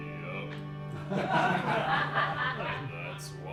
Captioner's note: laughter